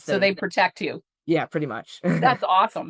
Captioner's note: chuckles